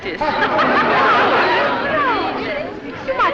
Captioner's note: laughter